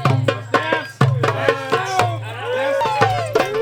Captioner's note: applause